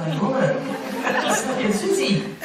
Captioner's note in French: rires